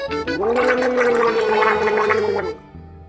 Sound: gargling

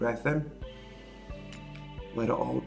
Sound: breathing in

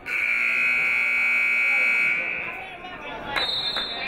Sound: buzzer; whistle

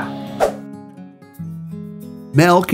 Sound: screen swooshes

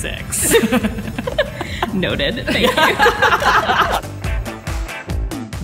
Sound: laughter

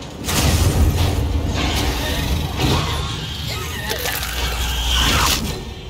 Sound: screaming

